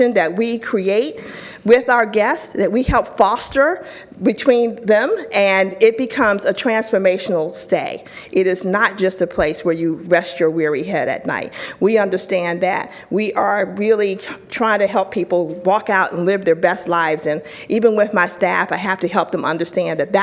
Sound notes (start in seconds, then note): none